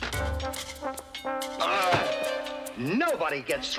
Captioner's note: yells